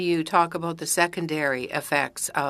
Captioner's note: speaking french